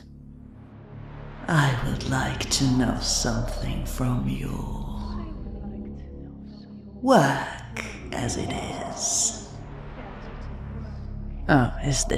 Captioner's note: echoing